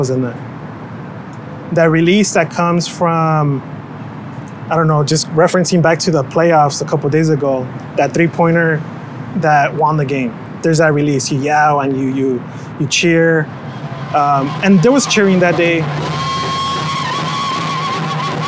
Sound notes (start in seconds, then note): 13.9 cheering